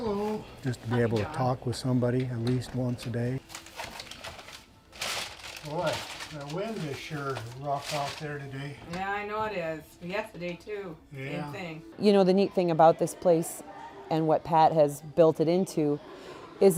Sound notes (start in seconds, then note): 5.1 paper crinkles